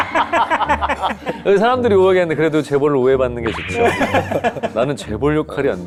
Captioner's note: glint